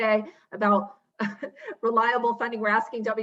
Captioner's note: laughs